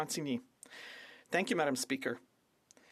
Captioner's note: speaking French